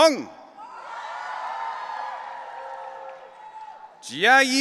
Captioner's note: audience cheering